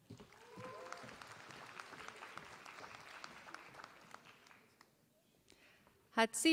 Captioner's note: applause